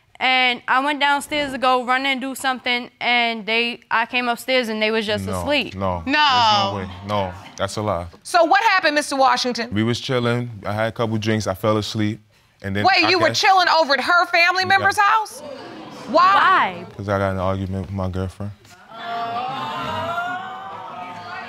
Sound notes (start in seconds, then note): 18.8 audience exclaims